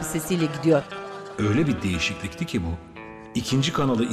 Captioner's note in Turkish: Ahmet dış ses